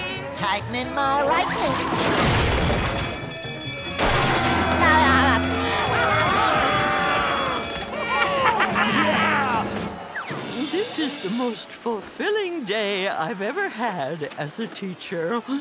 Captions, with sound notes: Tightening my right. [alarm blaring] [laughing] [laughing] Yeah! This is the most fulfilling day I've ever had as a teacher.